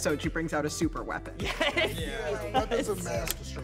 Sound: laughing

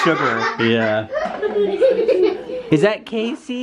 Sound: kids laugh

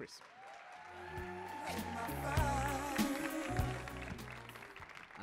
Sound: audience cheering and applauding

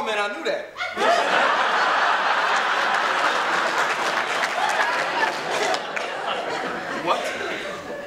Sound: audience laughter

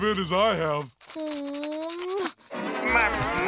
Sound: whimpers

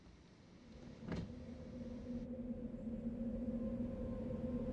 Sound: wind howling

